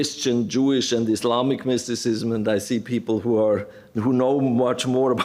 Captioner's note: none